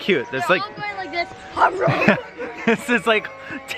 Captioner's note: impersonates eating